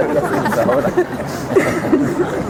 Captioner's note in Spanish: Risas